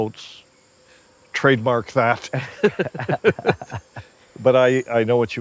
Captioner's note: Brian laughing